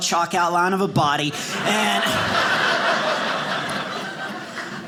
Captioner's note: audience laughing